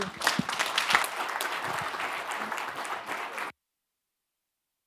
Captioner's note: audience clapping